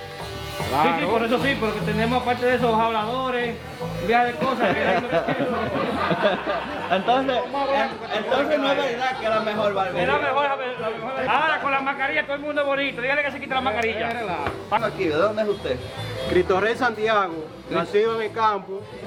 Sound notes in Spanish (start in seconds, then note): 4.3 risas